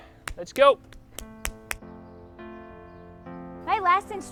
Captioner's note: clapping hands